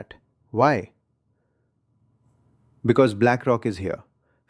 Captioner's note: pause